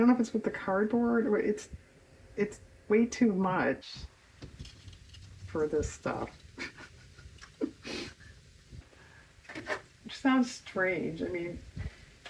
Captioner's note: laughs